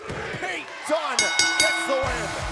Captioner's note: bell ringing